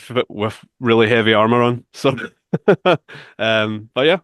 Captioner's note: laughs